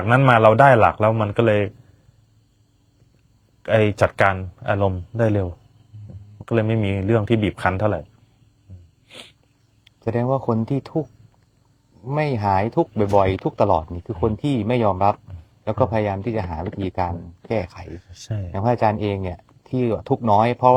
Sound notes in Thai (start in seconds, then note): 9.0 เสียงสูดหายใจ